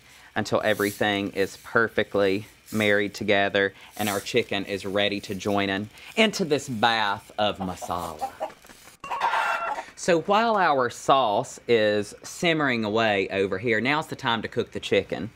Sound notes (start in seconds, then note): 7.4 chickens clucking